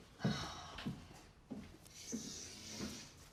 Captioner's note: Sara sighs